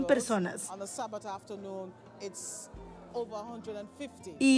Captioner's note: Hablando idioma extranjero